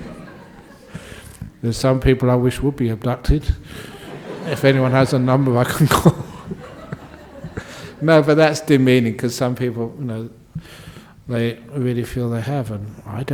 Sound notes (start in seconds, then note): 0.0 laughter; 3.7 laughter; 7.3 laughs